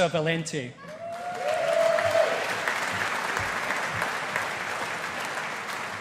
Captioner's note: audience applauding